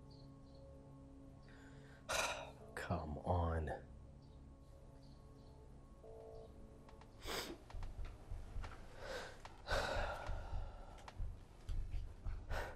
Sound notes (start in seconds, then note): 2.0 sigh; 7.2 sniffle; 7.9 exhales deeply; 10.7 music rises